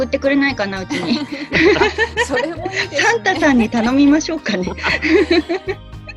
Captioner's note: laughs